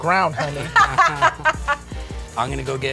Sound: all laughing

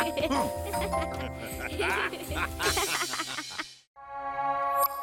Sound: laughing

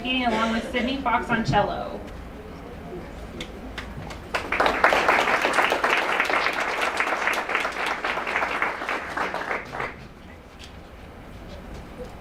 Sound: applause

